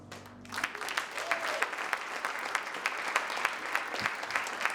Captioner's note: choir and audience applauding